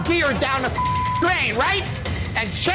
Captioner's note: beep